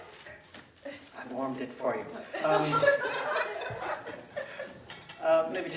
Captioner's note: laughing